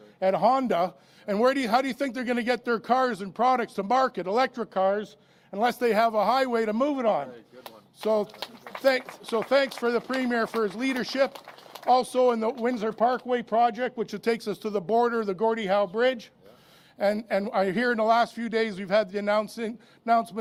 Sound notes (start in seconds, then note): 12.7 applause